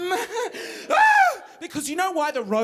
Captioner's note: screaming